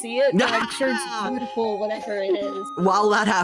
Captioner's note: laughing